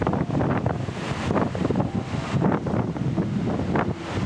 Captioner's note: blustery wind